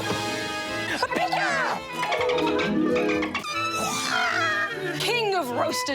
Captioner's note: dolphin chatters